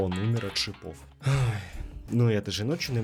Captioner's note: exhale